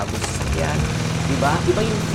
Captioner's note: engine revving